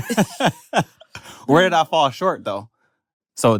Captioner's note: laughs